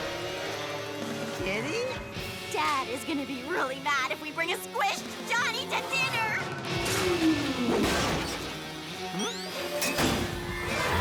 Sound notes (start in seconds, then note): 7.7 smash